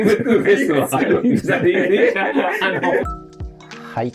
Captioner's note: laughing